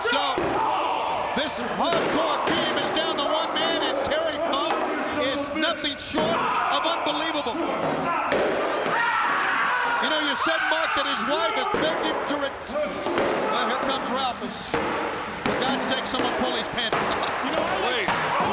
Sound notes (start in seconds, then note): 8.9 screams